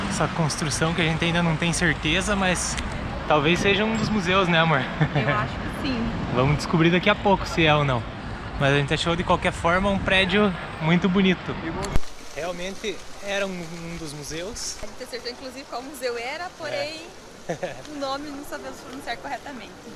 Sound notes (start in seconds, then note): 4.7 laughs